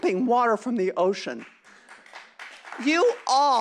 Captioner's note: applause